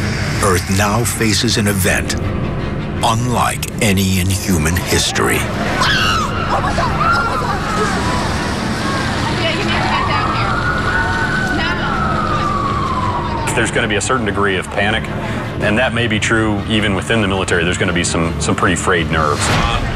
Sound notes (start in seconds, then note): 5.6 people screaming